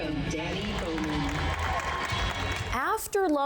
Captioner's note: participants applaud